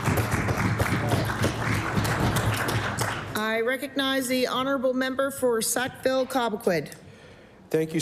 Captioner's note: applause